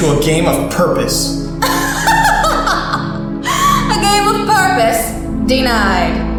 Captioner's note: laughs